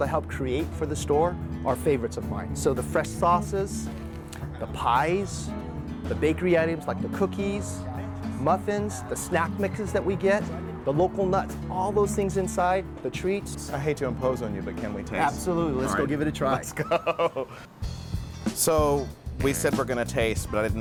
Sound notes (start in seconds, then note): 16.5 laughing